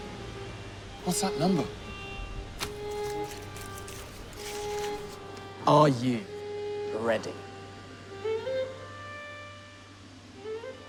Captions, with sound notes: - What's that number? (paper crumples) - Are you ready?